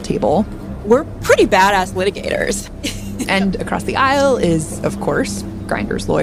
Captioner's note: laughs